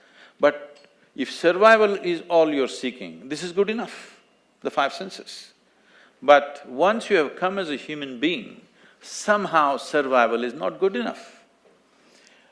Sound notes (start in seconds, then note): none